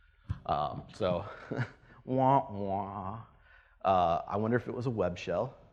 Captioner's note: laughs and imitates sad trombone